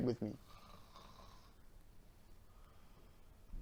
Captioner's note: snoring